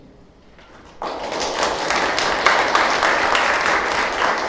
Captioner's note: audience applauding